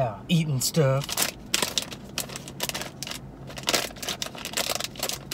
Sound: package crinkling

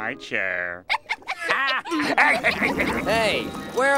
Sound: laughing

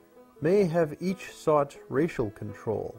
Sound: Arabic

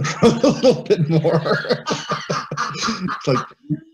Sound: laughter

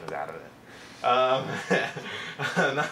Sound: laughs

